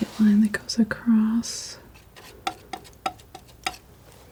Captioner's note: tapping